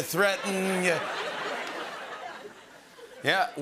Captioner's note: laughter